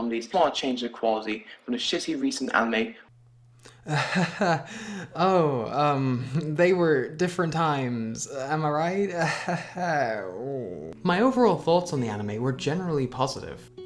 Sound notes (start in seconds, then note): 3.8 nervous laughter